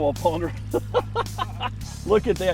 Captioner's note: laughs